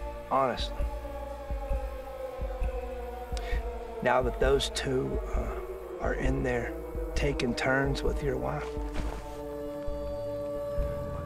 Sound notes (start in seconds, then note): none